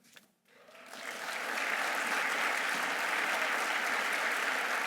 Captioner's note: audience applauding